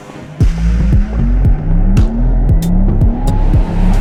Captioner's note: engine revving